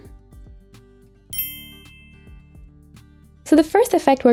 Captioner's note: bell dings